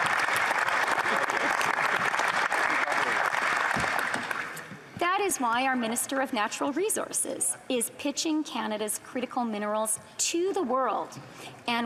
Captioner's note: applause